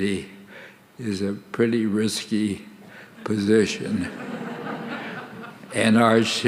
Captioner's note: audience laughing